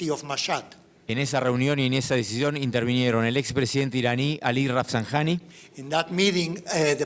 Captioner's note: speaking in foreign language